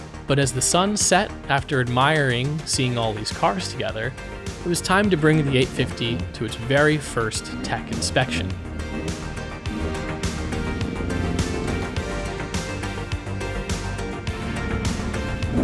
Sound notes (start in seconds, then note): 9.2 engine revving; 9.2 upbeat music